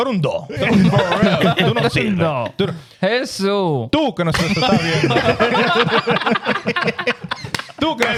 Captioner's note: laughing; speaking In Foreign Language